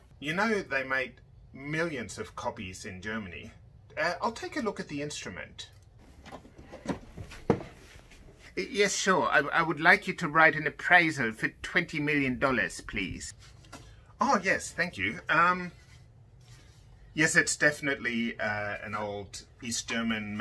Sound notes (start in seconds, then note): 6.1 violin case rustles